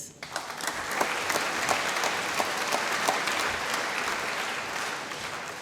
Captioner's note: applause